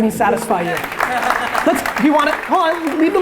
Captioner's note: crowd applause